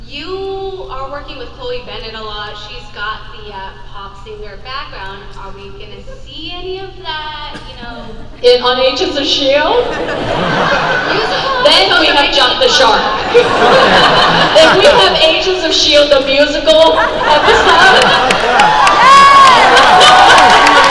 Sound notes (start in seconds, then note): 9.7 crowd laughs; 17.4 crowd claps